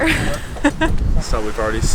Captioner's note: laughing amusingly